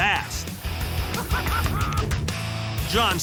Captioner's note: laughs